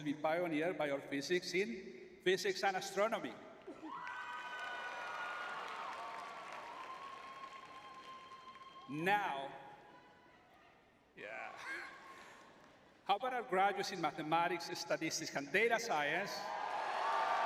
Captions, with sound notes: be pioneered by our physics in Physics and Astronomy. [cheering] Now, yeah. [laughs] How about our graduates in Mathematics, Statistics, and Data Science?